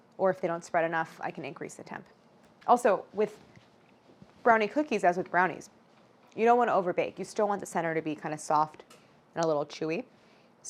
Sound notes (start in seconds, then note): none